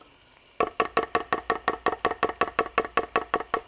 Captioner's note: knife tapping